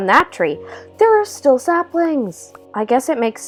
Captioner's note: gasp